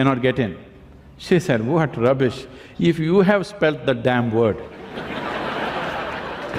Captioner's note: laughter